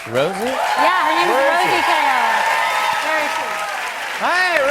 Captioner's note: cheers and applause